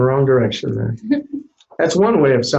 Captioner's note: quiet laugh